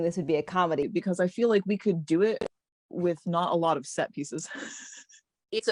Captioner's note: chuckle